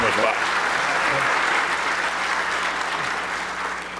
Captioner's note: applause